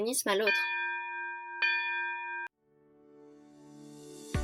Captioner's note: bell rings à end of class